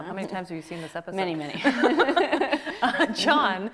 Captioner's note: both laughing